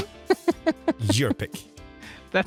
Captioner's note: laughs